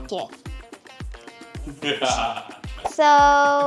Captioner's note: videographer laughs